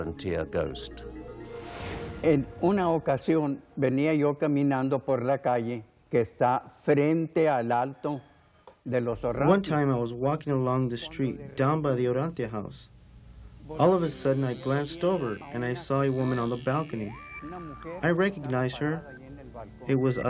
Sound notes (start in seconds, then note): 6.3 speaking foreign language